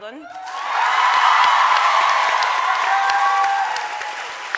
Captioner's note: audience cheering